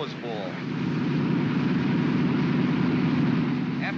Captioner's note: aircraft rumbles